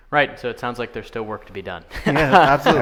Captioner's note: laughing